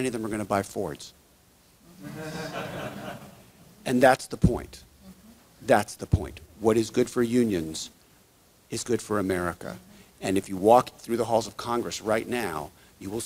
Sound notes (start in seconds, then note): 2.0 audience laughs